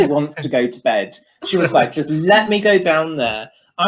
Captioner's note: hisses; laughter